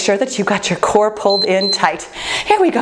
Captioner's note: timer beeps